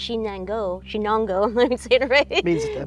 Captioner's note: laughs